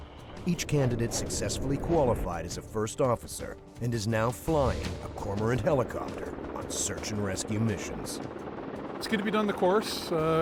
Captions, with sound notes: - [Voiceover] During the last month of the Cormorant pilot course at 442 Squadron, all three candidates went on to master boat hoisting and completed numerous training missions at night.